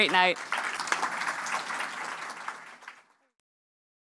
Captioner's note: applause